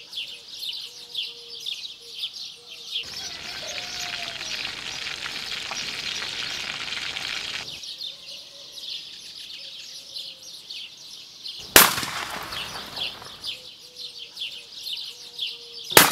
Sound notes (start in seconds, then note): 2.9 birds chirping; 3.0 food sizzling; 11.7 gunshot popping; 12.0 birds chirping; 15.8 birds chirping; 15.9 gunshot popping